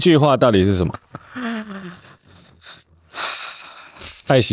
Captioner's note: laughing